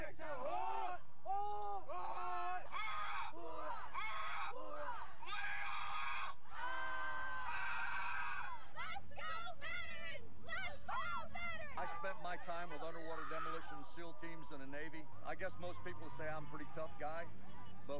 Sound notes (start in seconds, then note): 5.2 cadets yelling; 5.2 leader yelling